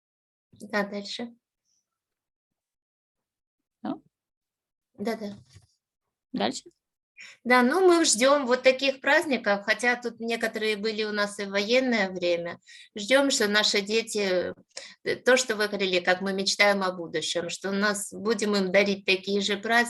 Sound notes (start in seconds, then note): 6.5 speaking Ukrainian; 11.1 speaking Ukrainian